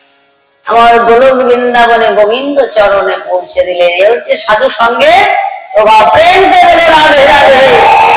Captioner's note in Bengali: চিৎকার করা